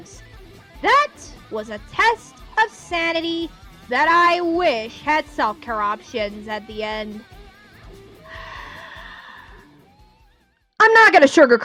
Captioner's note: sighs